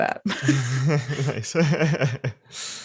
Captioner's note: laughing